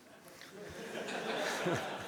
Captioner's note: laughs